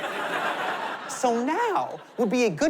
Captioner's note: laughter